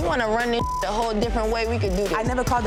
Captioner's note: beep